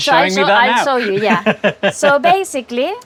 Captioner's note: laughs